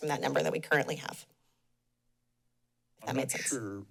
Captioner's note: pause